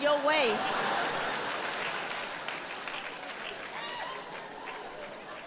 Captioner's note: audience laughs